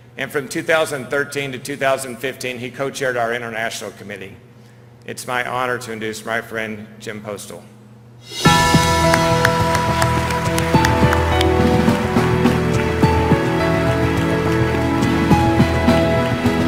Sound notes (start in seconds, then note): 8.4 applause and upbeat music